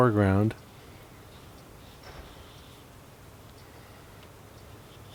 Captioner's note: clock ticking